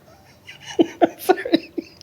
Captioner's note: laughing